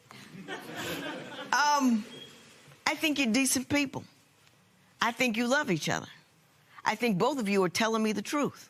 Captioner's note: laughter